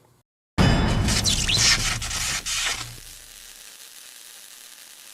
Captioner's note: electricity zapping